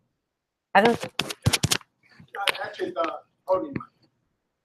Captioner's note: tapping finger on mic